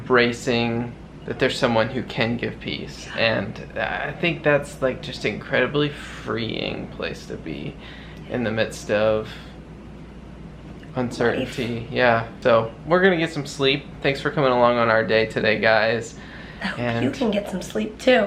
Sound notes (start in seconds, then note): none